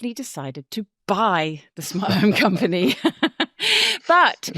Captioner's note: chuckles